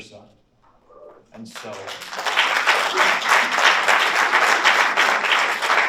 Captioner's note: audience applauds